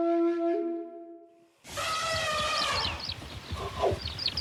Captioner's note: elephant trumpeting